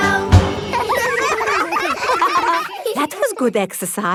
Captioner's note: all giggling